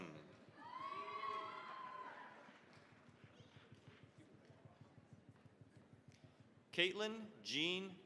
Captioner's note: cheering, applause